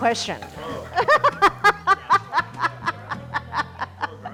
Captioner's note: laughs